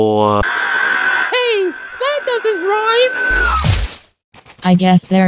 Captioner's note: screech